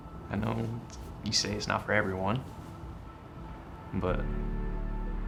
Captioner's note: none